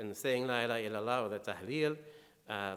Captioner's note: speaking in foreign language